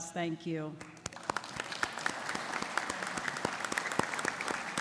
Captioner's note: audience applauding